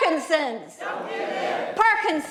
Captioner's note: crowd